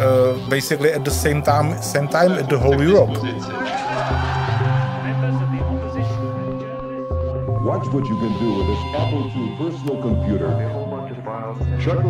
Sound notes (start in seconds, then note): 5.3 crowd cheering